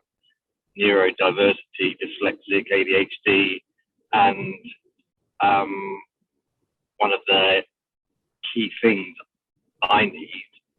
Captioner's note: audio buffering